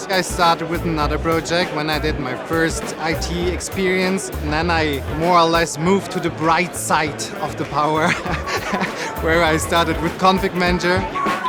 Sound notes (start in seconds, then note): 7.9 laughter